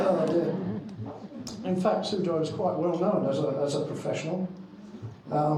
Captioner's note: crowd laughing